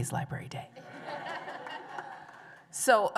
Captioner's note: laughter